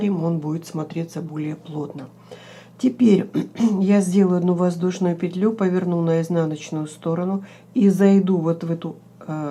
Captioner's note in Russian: откашливается